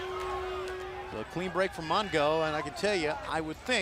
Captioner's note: crowd cheering